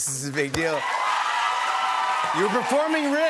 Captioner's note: cheers and applause